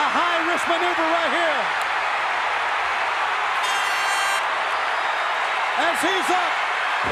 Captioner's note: applause